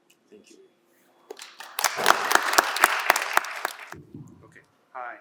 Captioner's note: applause